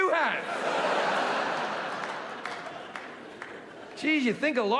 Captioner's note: audience laughing